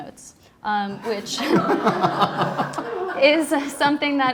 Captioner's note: all laughing